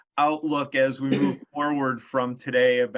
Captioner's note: clears throat